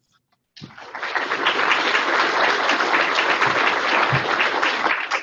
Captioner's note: audience clapping